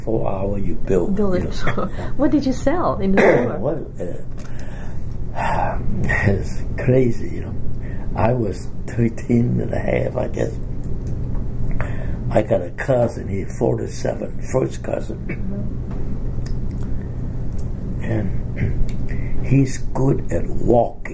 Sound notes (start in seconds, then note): 3.1 coughs; 6.5 exhales; 18.6 coughs